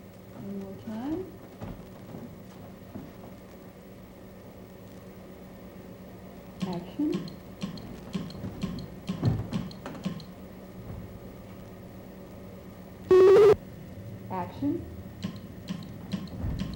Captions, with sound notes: One more time. Action. [CLICKS] [BUZZING/BEEPING] Action. [CLICKS]